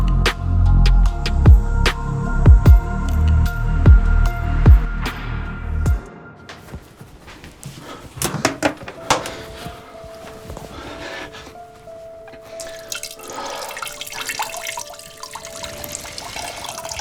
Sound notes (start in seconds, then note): 13.0 urinating